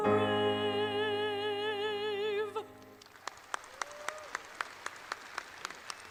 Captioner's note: audience applauds